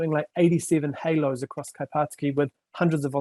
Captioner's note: speaking foreign language